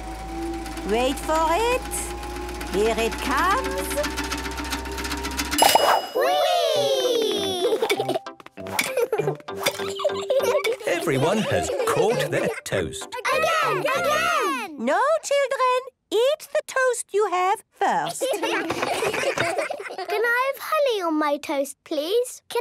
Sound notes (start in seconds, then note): 0.0 super toaster vibrating; 5.4 pings; 13.1 children calling out